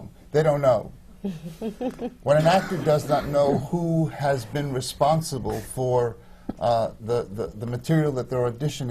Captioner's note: laughs